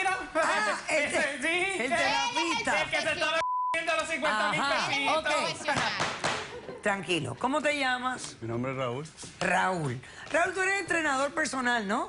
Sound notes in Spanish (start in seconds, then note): 3.4 Bip